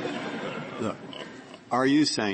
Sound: laughter

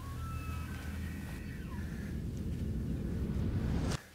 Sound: elk bugles in distance

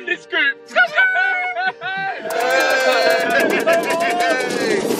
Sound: team cheering

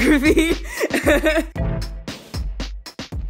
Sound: sarcastically laughing

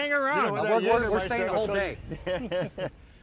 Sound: laughs

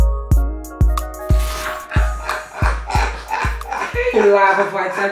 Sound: laughing

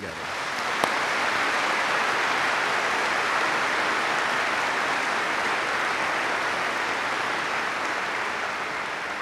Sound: applause

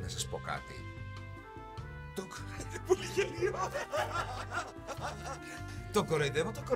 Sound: laughs

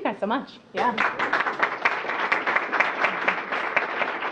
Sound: applause

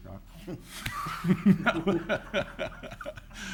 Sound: all laughs

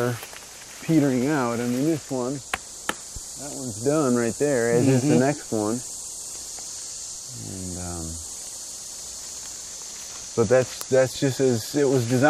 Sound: knocks on tree

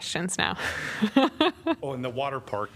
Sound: laughter

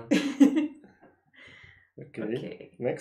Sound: laughter

